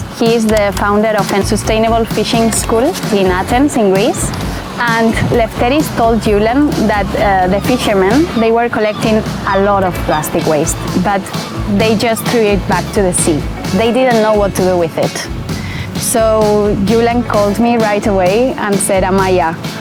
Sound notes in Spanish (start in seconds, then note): 4.8 graznido de pájaros